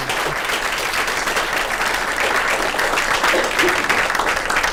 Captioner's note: applause